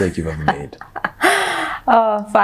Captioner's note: laughing